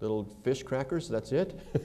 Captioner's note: laughter